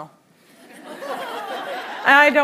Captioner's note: laughter